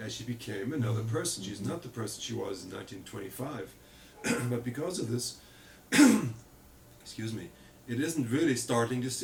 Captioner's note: coughs